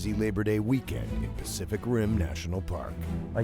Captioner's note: voiceover